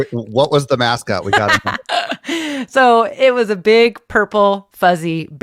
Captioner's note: laughs